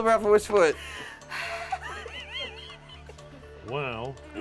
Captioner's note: laughs